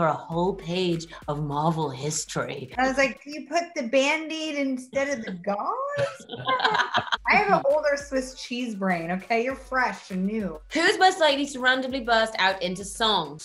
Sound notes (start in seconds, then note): 5.9 laughing